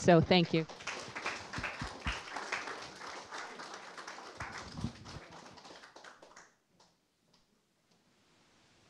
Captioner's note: applause